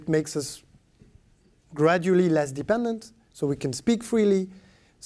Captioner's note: speaking french